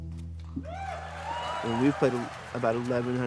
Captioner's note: audience cheers